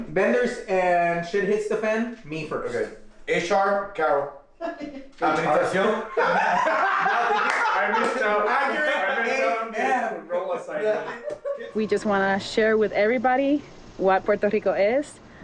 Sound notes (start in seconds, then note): 4.6 chuckles; 5.7 laughs